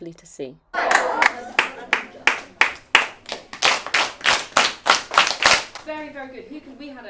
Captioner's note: rhythmic clapping